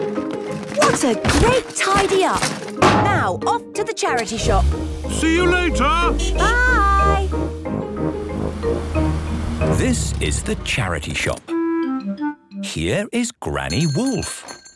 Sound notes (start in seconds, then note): 5.2 honking; 13.7 bell jingling